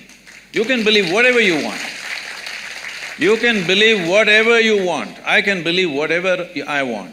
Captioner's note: applause